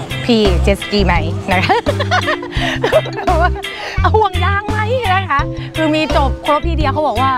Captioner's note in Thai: เสียงหัวเราะ